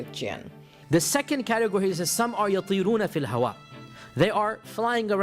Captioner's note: speaking in Arabic